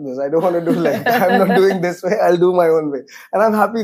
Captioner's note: laughs